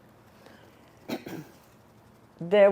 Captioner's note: clears throat